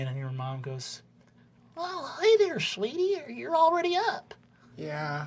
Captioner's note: high midwestern mom voice